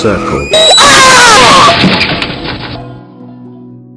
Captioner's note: heavy Crash!